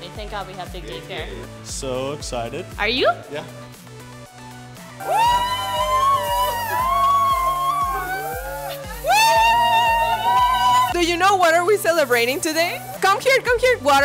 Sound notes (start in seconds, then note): 5.0 crowd cheering